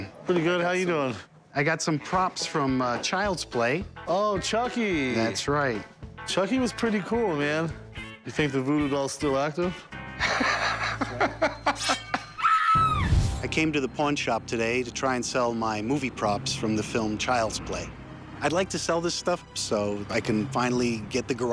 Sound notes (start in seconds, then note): 10.2 rick chuckling; 10.9 blade swooshing; 12.4 scream